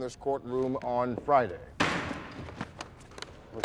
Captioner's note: gavel bangs